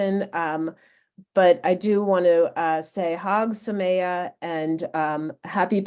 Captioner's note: speaks in foreign Language